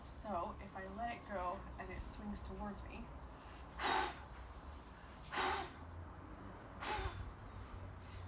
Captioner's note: blowing sound